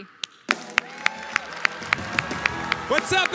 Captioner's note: applause